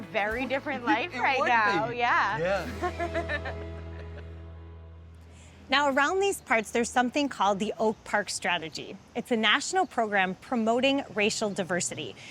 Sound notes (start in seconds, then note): 2.4 laughing